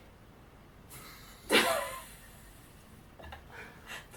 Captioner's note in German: Lachen